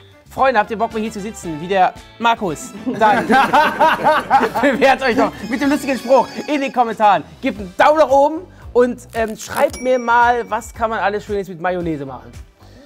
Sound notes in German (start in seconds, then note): 2.7 Lachen